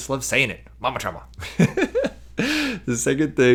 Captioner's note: laughs